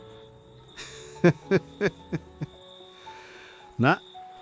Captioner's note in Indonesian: tertawa